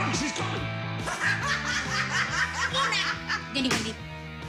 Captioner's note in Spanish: Carcajada